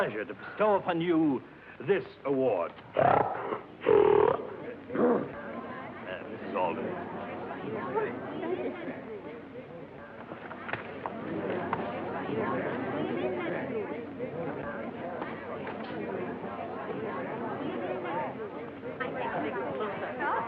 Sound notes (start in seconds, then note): 3.0 pig snorts; 11.3 chatter